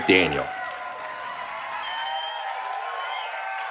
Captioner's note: cheering